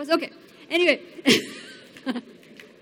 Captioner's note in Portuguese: Risos